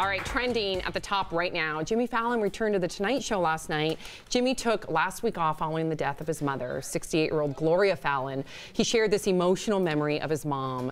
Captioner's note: applause